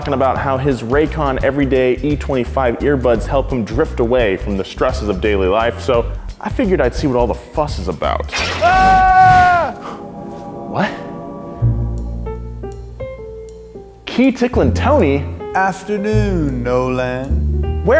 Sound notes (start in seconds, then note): 8.3 glass shatters; 11.7 jazzy piano music